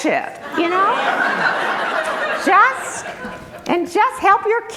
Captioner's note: group laughter